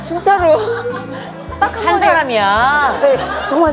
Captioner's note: frustrated